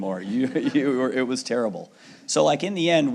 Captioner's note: audience laughing